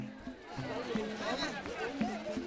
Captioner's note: loud chatter